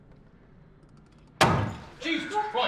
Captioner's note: bang